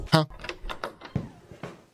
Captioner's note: knock on door; door opens